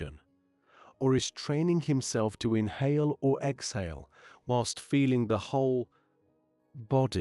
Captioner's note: breath